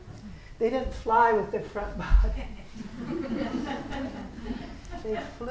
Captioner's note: laughing